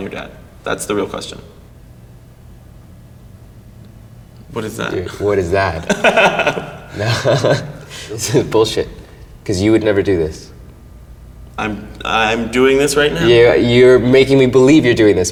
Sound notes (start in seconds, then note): 5.5 laughs